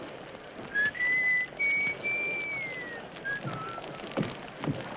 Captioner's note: Judge Crenshaw whistles